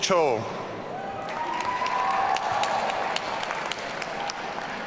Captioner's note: audience cheering